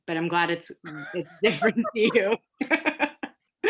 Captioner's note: laughing